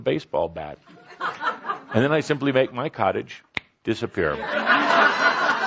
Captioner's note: laughter; snaps fingers; lots of laughter